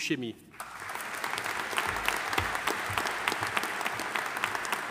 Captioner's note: audience applauding